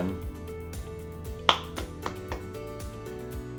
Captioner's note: professor clapping; gentle upbeat music